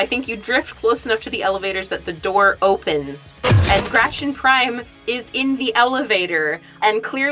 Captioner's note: door slides open